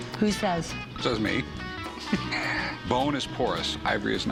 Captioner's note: laughs